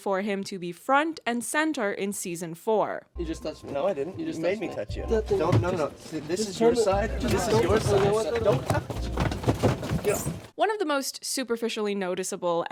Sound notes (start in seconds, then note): 6.8 continued arguing